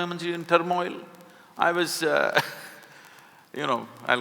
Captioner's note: laughs